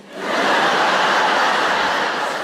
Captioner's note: laughter